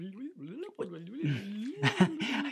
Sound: critter mumbling in low voice; laughs

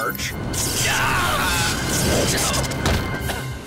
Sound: screams

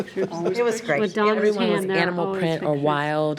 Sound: trustees chattering

